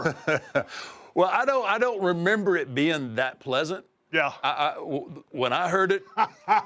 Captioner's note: laugh